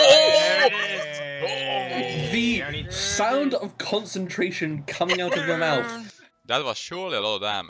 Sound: the sound of concentration coming out of your mouth!

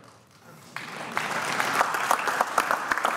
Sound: applause

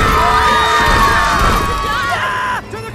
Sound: panicked screams

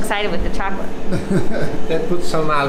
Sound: laughs

